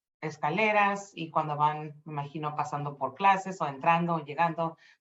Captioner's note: speaking Spanish